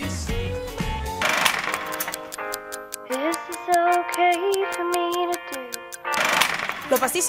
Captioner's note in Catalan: tic-tac